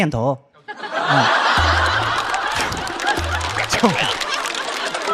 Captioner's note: laughing out of frustration